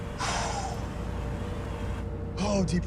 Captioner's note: exhales sharply